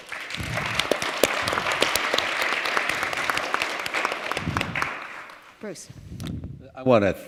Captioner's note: applause